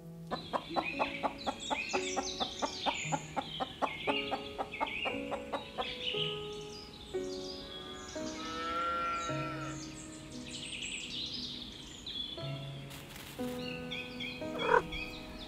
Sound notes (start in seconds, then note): 0.1 chickens clucking, birds singing; 6.1 cows mooing in the distance; 14.5 dry grass rustling, cat purrs & meows